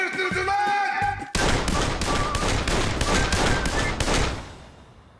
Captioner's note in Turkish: Silah sesleri